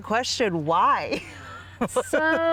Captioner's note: laughs